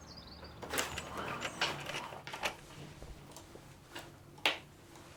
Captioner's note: bird song; roller blind rattles